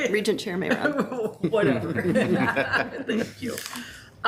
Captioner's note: laughing